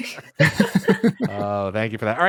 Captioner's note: laughter